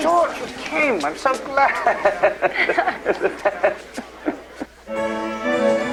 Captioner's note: La risa